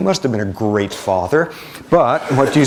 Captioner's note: laughter